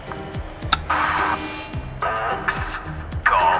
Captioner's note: intercom buzzes